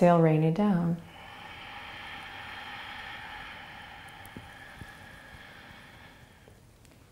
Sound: exhaling

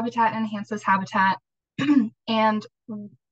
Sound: clears throat

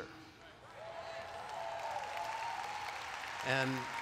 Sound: applause

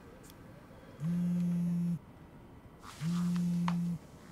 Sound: phone vibrates

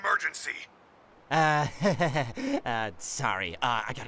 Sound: nervous chuckle

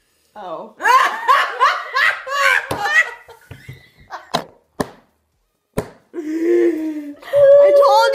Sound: all laugh

